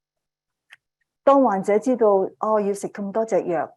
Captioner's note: speaking chinese